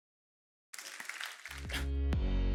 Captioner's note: audience clapping; upbeat music